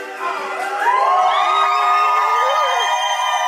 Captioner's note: crowd cheering